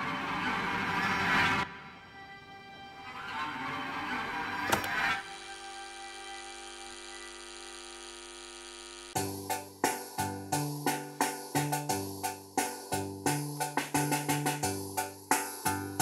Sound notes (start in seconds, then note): 0.1 sinister music; 6.0 cellphone vibrates